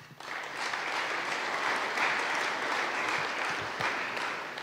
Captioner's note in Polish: oklaski